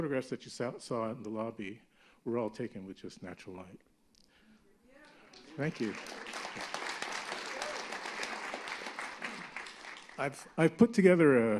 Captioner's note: applause